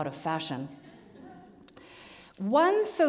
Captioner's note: audience laughs